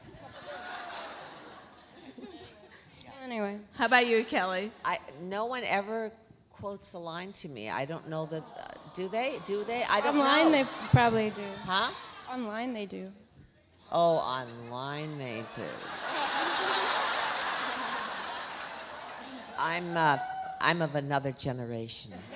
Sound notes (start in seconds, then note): 0.0 audience laughs; 15.4 audience laughs; 16.2 Alexis laughs